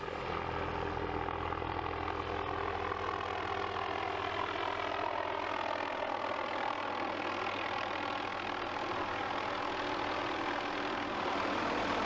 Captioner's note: helicopter whirring